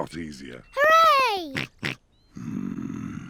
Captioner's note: snorts